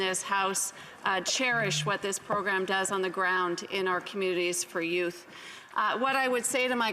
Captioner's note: speaking French